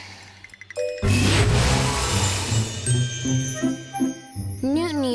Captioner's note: sighs